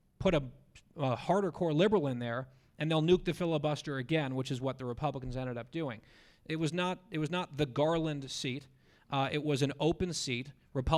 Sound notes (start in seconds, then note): none